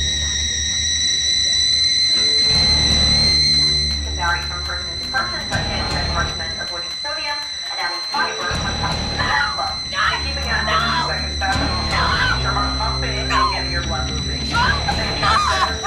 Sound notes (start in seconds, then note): 10.5 Efosa Screaming; 12.5 TV news and Stereo music loud